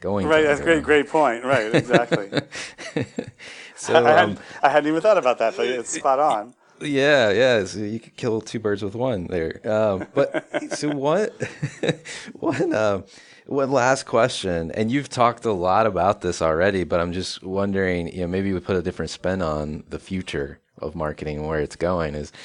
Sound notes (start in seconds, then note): 3.1 laughing loudly; 9.7 laughing